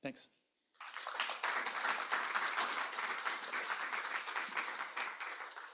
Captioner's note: applause